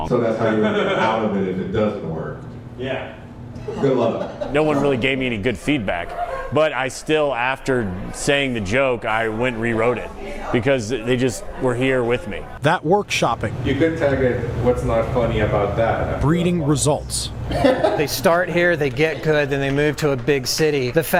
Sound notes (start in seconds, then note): 3.6 laughter